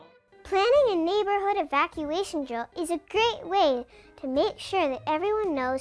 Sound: none

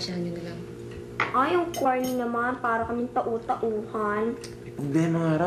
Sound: clicks tongue

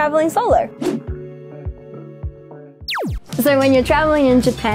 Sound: screen whooshing; laser whooshing

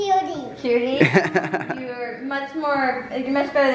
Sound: man laughs

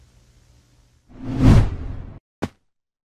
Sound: whoosh

